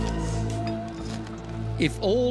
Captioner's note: scraping